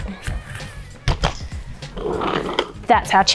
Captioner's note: chair scrapes on the floor